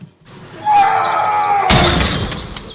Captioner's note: screaming